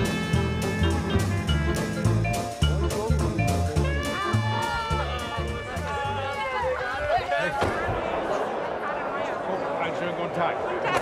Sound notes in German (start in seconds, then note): 4.7 Erfreutes Stimmengewirr